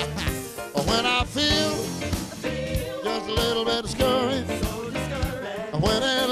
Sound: chuckling

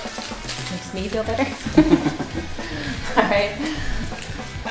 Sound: laughing

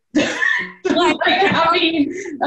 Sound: belly laughing

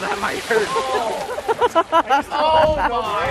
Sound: laughing

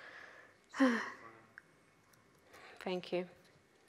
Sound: sighs

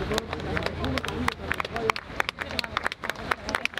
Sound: people clapping

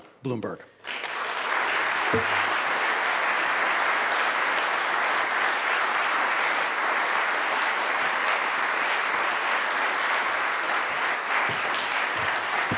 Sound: applause

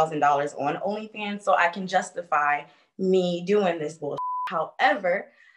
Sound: beep

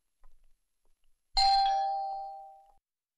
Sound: door bell rings

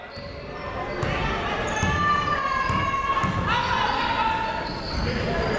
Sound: people shouting in the crowd

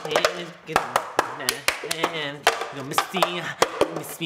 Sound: playing cups

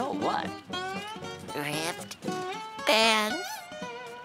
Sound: whispering

